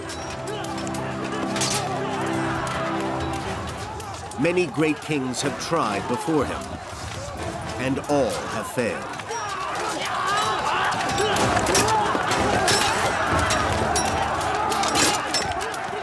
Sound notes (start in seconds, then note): 0.0 weapons clanking; 0.1 soldiers grunting; 9.5 soldiers yelling; 9.5 weapons clanking